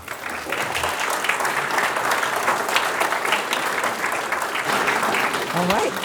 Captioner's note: applause